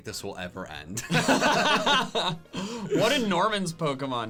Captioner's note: laughing